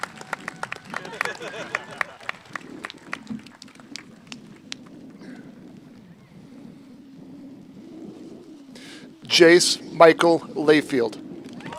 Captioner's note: cheers and applause